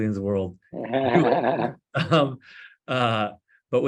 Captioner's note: laughs